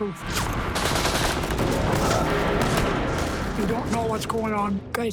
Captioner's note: gunfire